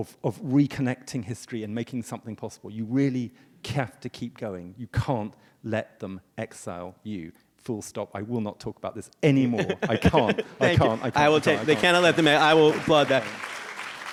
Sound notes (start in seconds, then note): 10.6 audience claps